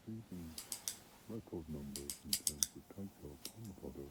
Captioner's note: gun clicking